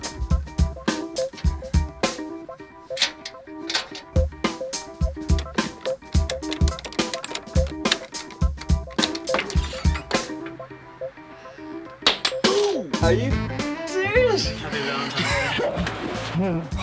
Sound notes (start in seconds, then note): 2.9 metal clattering